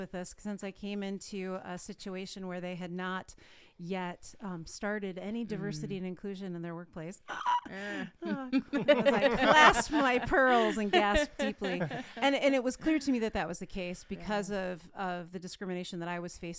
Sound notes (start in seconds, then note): 7.6 gasps; 11.4 all laughing